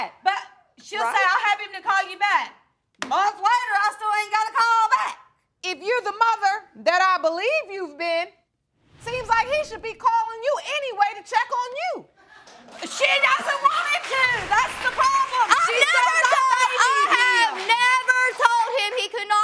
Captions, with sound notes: She'll say, "I'll have him to call you back." Month later, I still ain't got a call back. If you're the mother that I believe you've been, seems like he should be calling you anyway to check on you. (AUDIENCE APPLAUDING) She doesn't want him to, that's the problem. I never told him... I have never told him he could not call you.